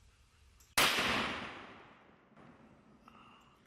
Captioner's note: gunshot